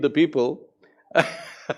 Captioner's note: laughs